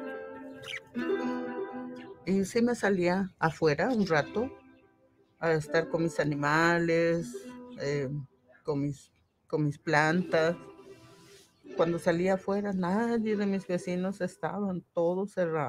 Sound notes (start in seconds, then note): 2.2 speaking in foreign language